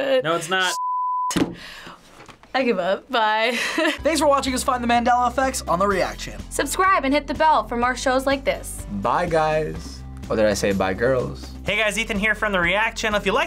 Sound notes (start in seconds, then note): 3.6 laughs